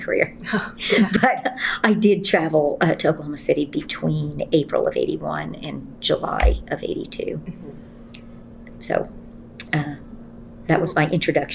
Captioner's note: laughs